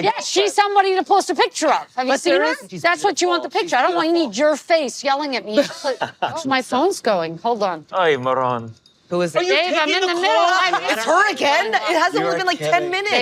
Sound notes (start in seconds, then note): 5.5 laughing; 9.4 phone ringing